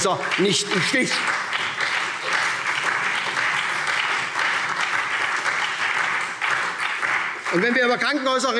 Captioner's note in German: Lebhafter Beifall SPD